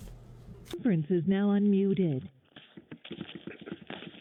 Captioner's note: recorded Voice; speaker crackling